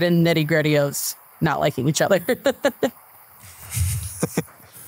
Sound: laughs

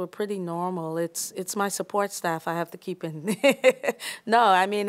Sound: laughter

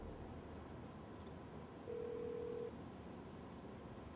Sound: phone dialing

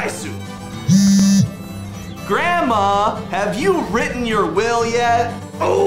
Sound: phone vibrates

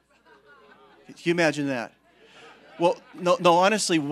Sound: congregation laughing

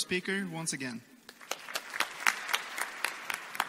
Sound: applause

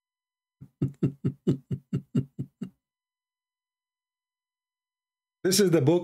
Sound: Ketawa

